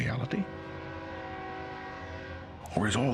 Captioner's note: train whistling